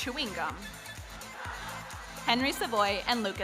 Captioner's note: audience laughs